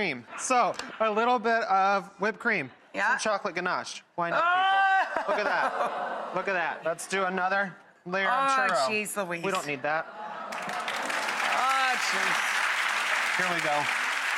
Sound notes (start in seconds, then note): 10.4 audience applauds